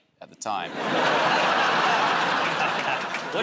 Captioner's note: laughter